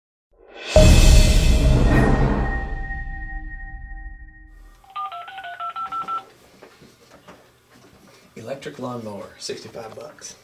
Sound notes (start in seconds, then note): 4.8 phone dialing